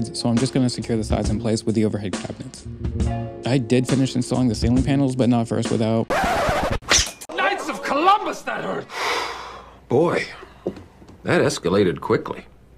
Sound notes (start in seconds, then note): 6.1 record scratch and sword swoosh; 8.9 sighs